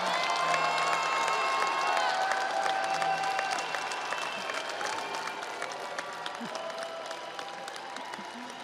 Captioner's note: audience applauds; audience cheers